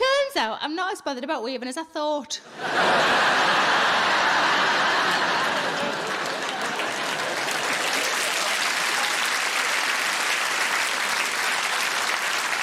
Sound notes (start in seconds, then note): 2.5 audience laughing and applauding